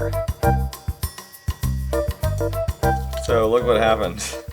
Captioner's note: bell chimes